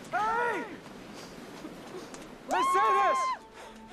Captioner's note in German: Lacht